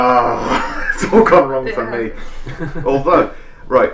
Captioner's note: groan